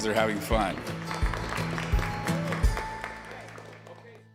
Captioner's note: applause